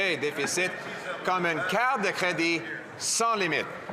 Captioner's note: speaking French